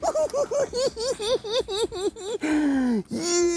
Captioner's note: cackling